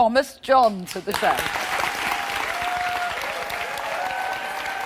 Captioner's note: audience cheering